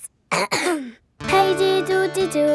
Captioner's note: clears throat